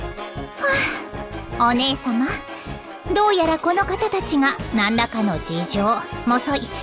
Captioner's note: sigh